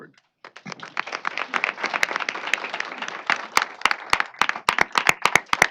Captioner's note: applause